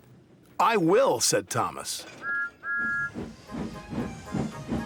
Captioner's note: whistles